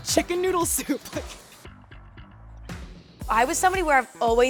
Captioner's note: laughing